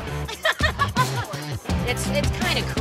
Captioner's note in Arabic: تضحك